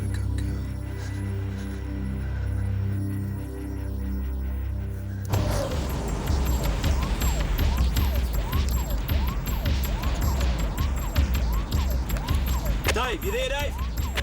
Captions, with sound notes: Good girl. (siren wailing) (energetic dramatic music) - Dave, you there, Dave? - Yeah John, I'm here.